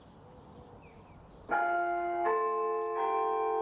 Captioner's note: church bells